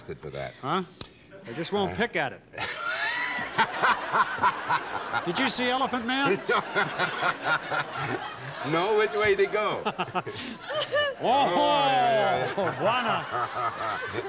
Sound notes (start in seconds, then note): 2.6 laughter